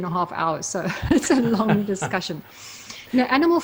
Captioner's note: laughs